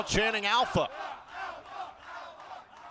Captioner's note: fans chanting